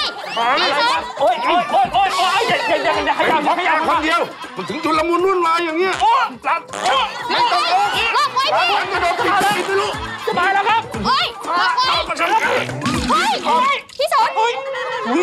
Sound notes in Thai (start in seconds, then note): 6.7 ผายลม; 9.2 ผายลม; 12.6 ผายลม